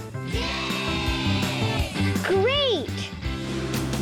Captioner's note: children cheering